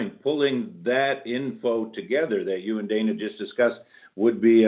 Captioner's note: laughing